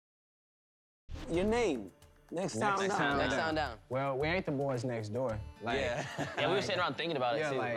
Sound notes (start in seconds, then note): 5.9 laughs